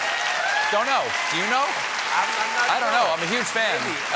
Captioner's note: cheers and applause